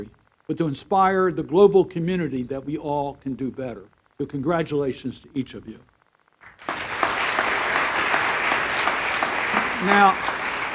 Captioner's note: applause